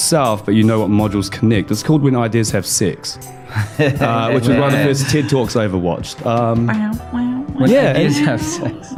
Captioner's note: laughing